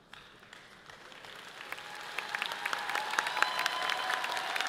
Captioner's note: audience applauding